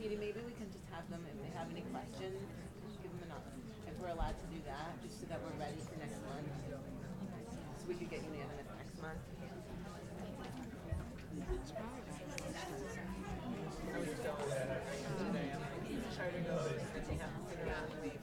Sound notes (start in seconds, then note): 9.8 people chattering